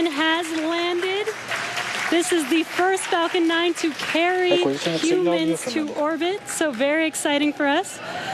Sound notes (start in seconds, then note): 2.5 cheering and Applause